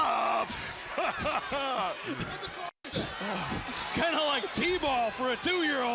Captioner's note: crowd chatter